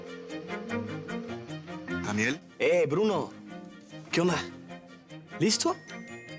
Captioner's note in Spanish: Timbre en la línea